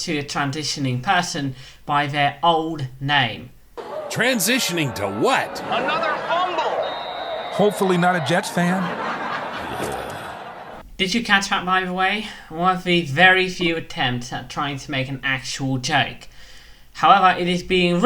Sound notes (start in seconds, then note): 6.2 laugh track; 9.0 laugh track, norm moaning